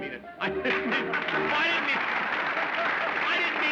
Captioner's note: laughter